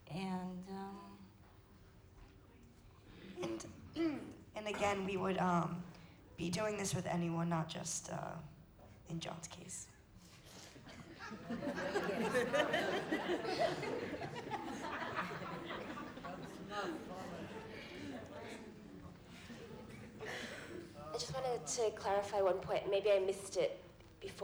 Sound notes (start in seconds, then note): 10.7 laughter